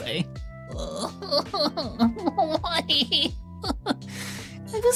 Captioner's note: crying